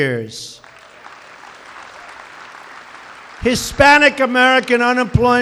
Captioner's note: applause